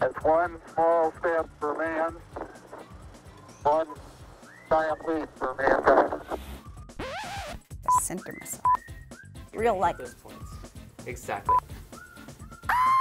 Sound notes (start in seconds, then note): 6.9 record scratch